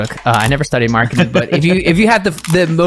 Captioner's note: laughing